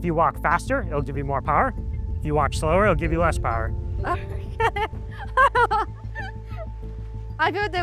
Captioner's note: laughs